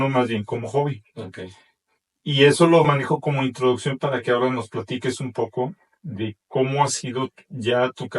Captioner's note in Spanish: carraspeo